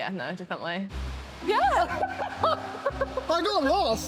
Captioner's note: both laugh